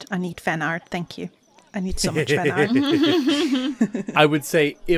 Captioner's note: laughter